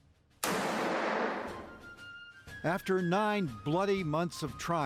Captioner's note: canon fires